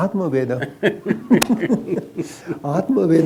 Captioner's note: laughs; both laugh